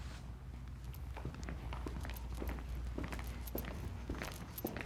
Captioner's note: footsteps thudding